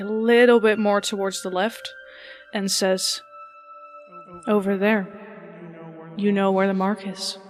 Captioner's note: echoing; echoing